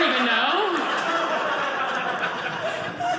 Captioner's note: audience laughing